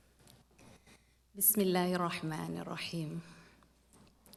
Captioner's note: non-english speech